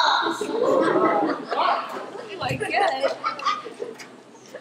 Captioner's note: laughter